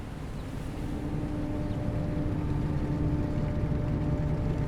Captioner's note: horn blaring